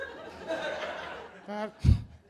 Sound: laughter

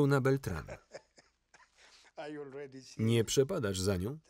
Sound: laughing

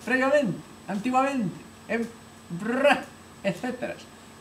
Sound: prrrrrra

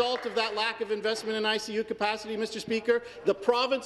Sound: some Applause

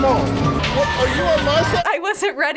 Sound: laughs

